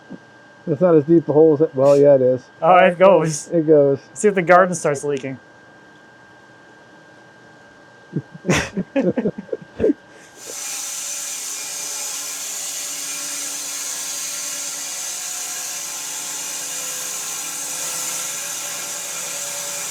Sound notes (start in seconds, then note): 8.1 both laughing; 10.7 saw whirring